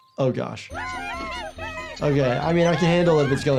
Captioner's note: animals laughing